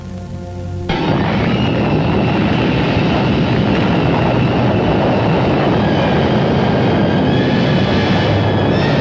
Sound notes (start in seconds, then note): 0.1 dramatic music; 0.9 bombs blasting